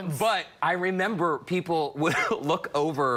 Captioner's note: laughter